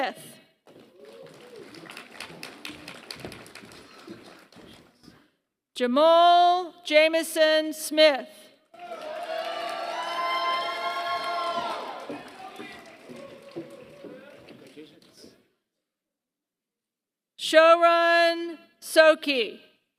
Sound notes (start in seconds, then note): 0.7 applause; 8.7 applause